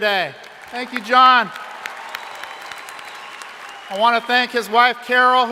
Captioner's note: crowd applauding